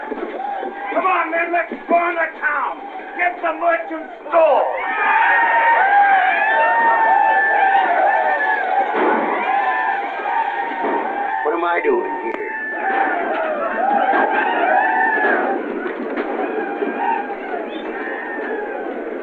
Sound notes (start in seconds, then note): 5.1 yelling and gunshots